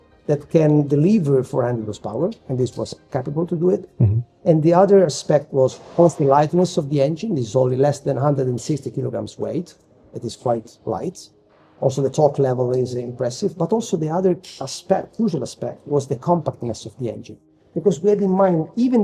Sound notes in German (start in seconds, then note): none